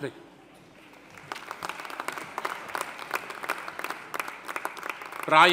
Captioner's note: audience applauding